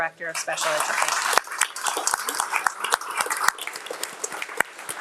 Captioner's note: attendees clapping